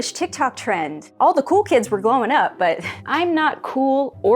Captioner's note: laughs